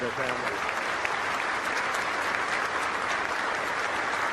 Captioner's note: crowd applauding